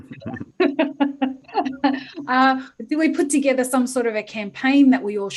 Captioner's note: laughter